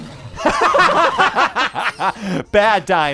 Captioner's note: laughter